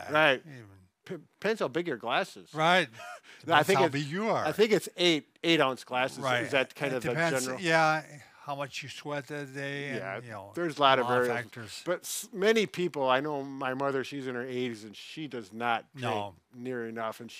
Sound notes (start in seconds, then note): 2.9 chuckles